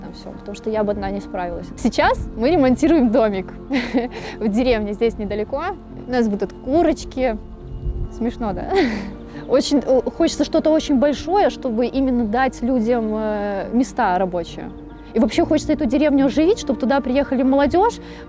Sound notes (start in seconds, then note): 3.4 laughs